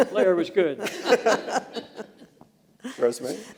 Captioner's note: laughter